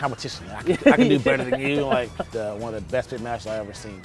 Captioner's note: laughter